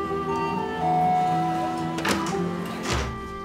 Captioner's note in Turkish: Kapı zili çalıyor